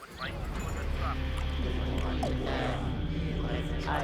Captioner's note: speaking alien language in distance